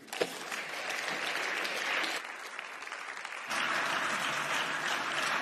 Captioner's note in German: Beifall